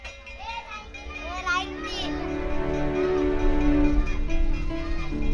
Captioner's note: bell ringing